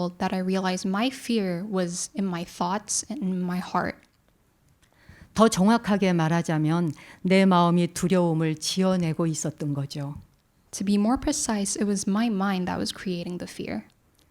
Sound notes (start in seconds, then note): 5.9 speaking in Korean